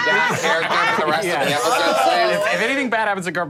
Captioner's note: group laughing